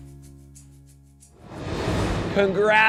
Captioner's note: light upbeat music continues; graphics whooshing